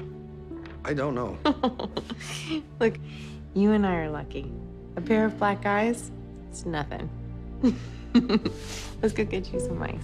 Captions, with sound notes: - I don't know. - [laughs] Look, you and I are lucky. A pair of black eyes, it's nothing. [chuckles] Let's go get you some ice.